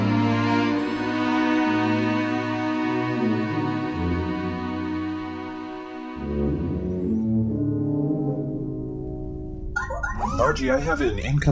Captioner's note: transition, communicator chimes